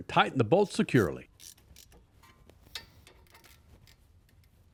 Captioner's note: wrench creaking